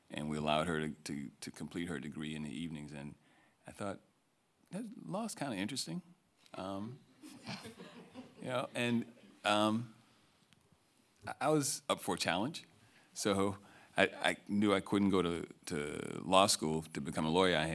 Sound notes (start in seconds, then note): 7.3 audience laughing